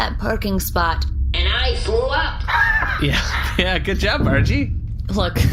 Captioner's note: laughing